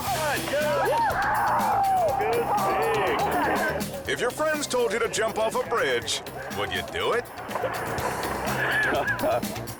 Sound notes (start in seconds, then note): 1.5 jumper screaming; 7.7 upbeat music